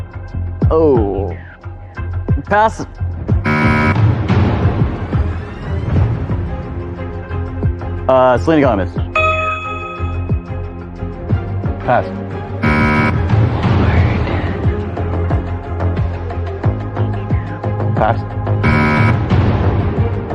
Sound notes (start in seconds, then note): 12.6 buzzer sounds; 13.3 contestant whispering; 18.6 buzzer sounds